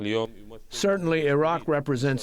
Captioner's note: through translator